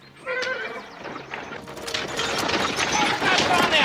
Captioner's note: horse whinnies